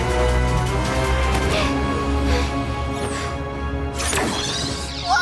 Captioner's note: panting